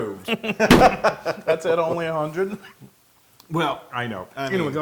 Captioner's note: laugh